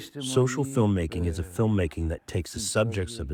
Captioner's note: through translator